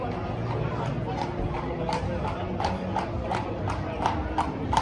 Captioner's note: sound of horses hooves